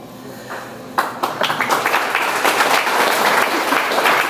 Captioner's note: audience applauds